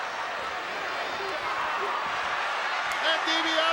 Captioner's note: crowd clamors